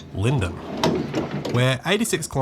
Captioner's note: V set door noise